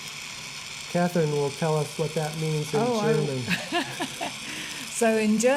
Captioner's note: laughing